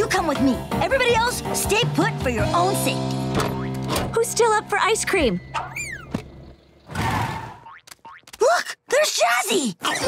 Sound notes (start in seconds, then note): none